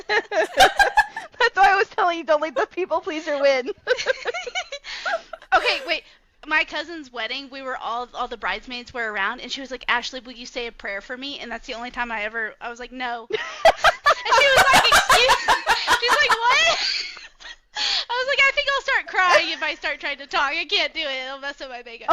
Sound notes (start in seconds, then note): 13.3 laughter